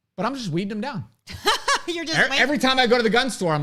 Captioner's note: laughs